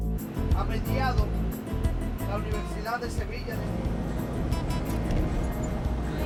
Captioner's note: male Voice; speaking in Spanish